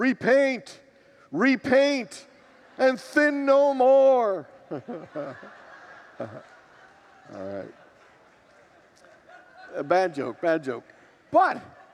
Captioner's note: congregation laughs